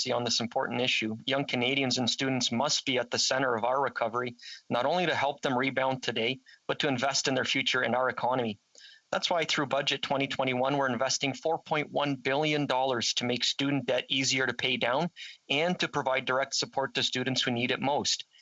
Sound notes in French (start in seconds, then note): 2.8 voix de l'interprète